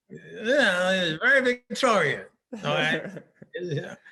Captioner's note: laughing